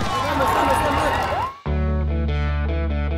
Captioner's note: crowd cheering